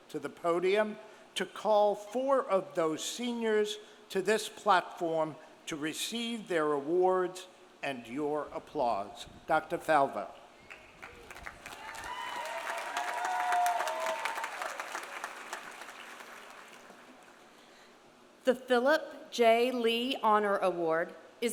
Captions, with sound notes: to the podium to call four of those seniors to this platform to receive their awards and your applause. Dr. Falvo. (audience cheering) (audience applauding) - The Philip J. Lee Honor Award